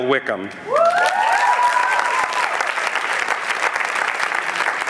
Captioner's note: applause